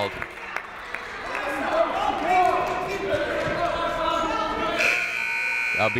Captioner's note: people shouting in the crowd; buzzer ringing